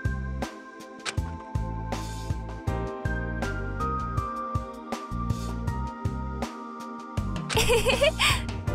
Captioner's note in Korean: 후후